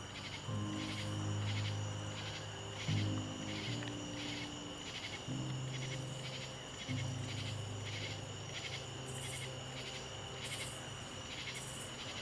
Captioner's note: crickets Chirping